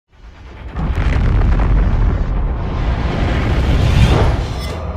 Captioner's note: explosion